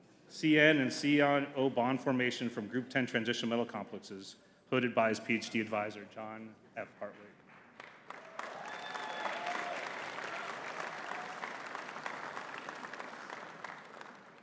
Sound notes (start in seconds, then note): 7.8 audience cheering and clapping